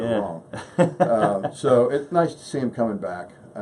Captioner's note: laughs